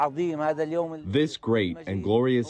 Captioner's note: through translator